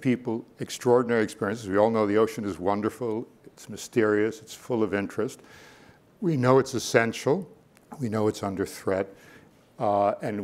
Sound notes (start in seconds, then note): none